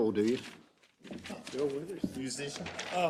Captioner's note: laugh